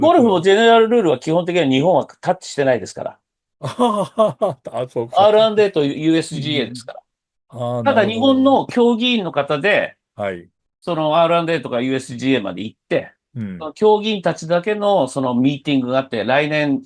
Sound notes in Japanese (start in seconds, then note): 3.6 笑い